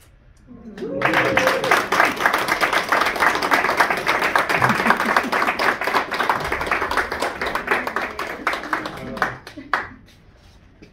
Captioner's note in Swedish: Applåder